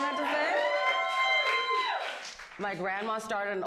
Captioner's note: audience cheers